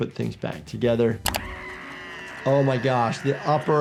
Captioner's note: Wendy screaming